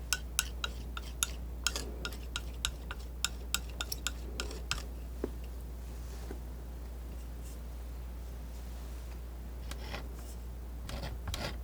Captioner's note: tapping